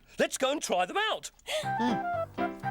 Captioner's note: gasps